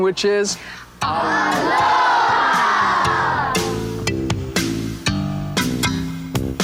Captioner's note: crowd